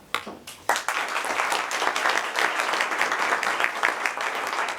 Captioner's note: people applaud